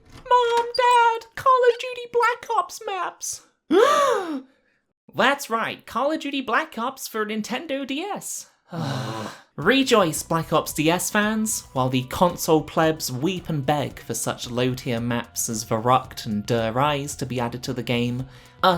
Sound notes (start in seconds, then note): 3.7 both gasp; 8.6 both groan